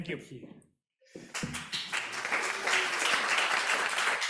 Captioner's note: applause